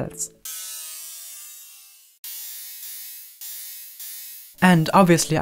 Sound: metallic sounds repeating and decreasing

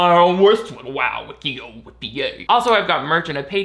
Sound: beatboxing

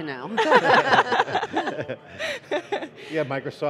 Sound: laughing

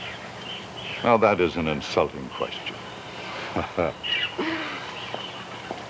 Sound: laughs

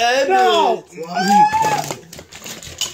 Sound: screams

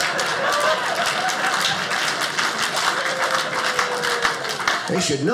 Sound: audience laughing; audience applauding

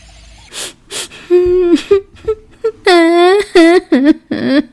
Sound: crying

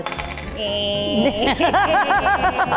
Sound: metal clinking; laugh

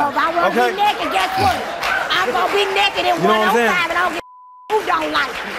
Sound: beep

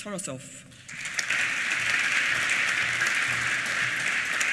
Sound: applause

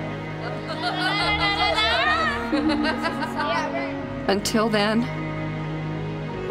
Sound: laughter

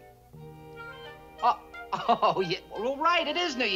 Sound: chuckles

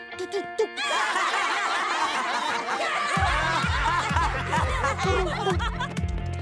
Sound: laughing

